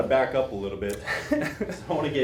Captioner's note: laughs